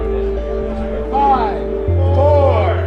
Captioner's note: crowd